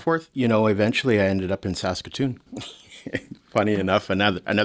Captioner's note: laughs